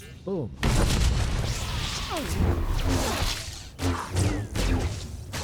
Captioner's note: gunshots